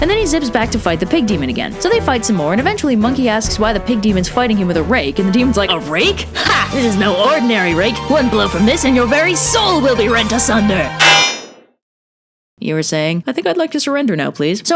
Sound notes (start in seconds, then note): 11.0 clang